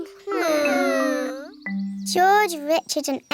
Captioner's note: whining